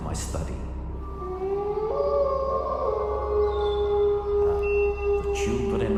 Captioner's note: wolf howling